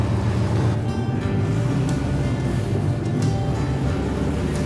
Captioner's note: revving engine